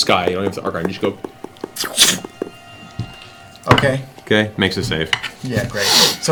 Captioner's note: magic shooting noise